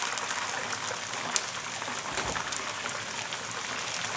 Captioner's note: pan sizzling